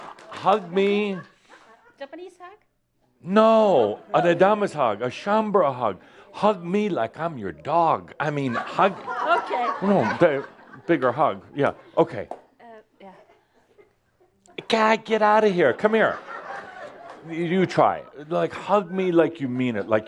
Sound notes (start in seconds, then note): 0.0 audience applause; 8.3 laughter